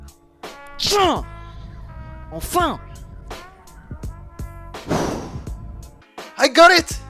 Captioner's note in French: soupire